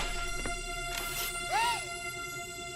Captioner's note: gasps